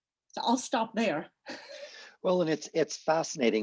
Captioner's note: laughs